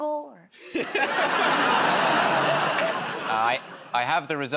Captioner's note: laughter